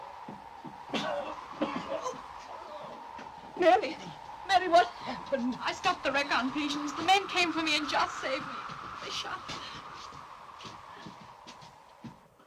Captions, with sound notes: (Joss coughs) Mary...Mary what's happened? - I stopped the wreck, Aunt Patience. The men came for me and Joss saved me...they shot him. (wind blows)